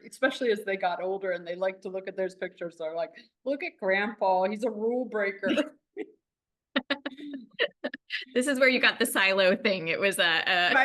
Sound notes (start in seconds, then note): 6.7 laughing